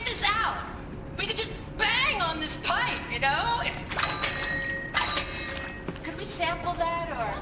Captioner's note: banging sounds